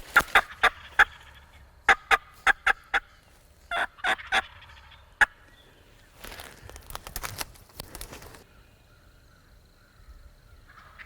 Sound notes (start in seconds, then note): 0.9 turkeys gobbling; 3.6 multiple turkey calls